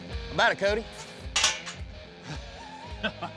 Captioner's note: metal clanging; metal gate clangs shut